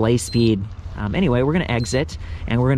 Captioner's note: bike beeps